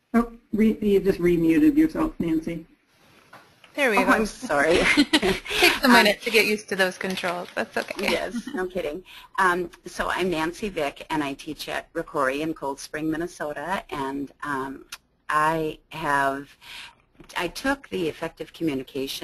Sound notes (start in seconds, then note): 4.0 chuckles